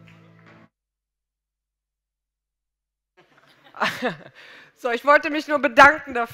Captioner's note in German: Gelächter